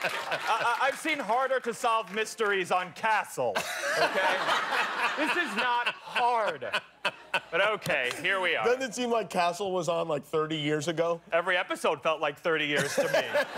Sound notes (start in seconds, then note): 3.5 laughter